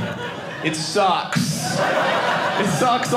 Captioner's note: audience laughing